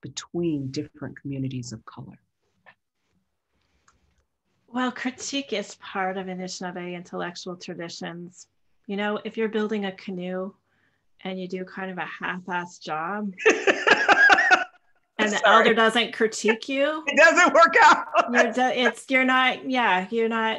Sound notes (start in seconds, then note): 13.4 laughter